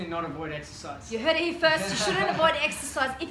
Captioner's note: laughs